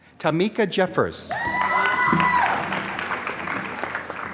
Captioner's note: applause